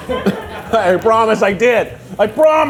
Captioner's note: crew laughing